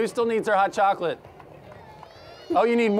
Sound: applause

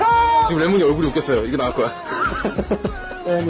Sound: laughs

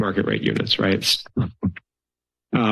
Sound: chuckles

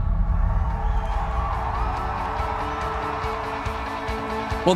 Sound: cheering

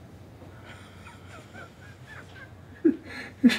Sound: chuckling

